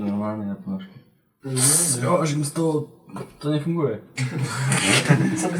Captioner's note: laughing